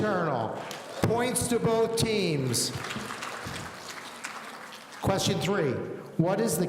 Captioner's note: audience applauding